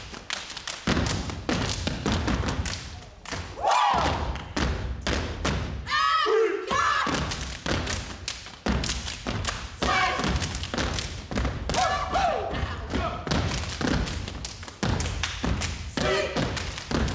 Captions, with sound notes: (group claps) (groups cheers) Af-ri-ca. Safe. (group cheers) Sleep.